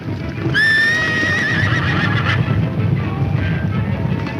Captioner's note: horse whinnies